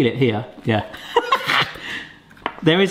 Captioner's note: laughs